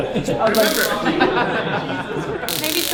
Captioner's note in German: schnarrendes Geräusch des elektronischen Messers im Hintergrund